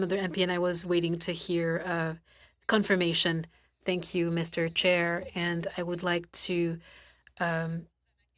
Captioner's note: speaking French